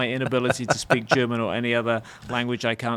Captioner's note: laughs